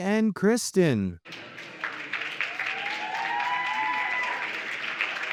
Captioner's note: audience applauding